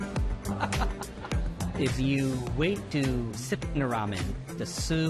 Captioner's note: laughs